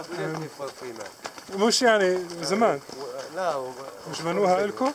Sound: speaking Arabic

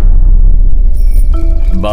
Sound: cycle bell ringing

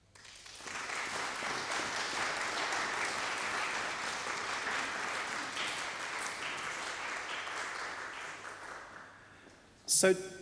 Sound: applause

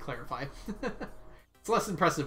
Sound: laughs

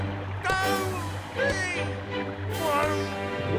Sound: grunting

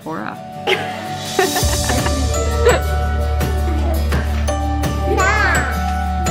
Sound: upbeat music; laughing

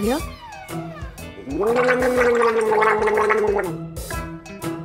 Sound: gargling

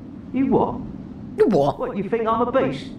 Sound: imitating NPC

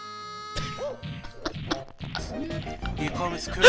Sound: laughs at the 1 2 oatmeal joke

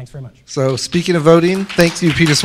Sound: applause

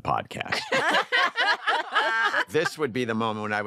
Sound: laughter

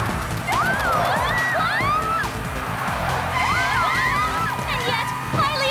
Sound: screams

